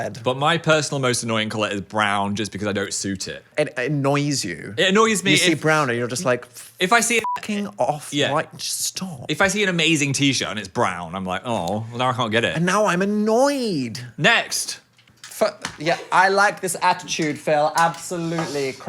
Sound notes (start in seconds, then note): 7.2 beep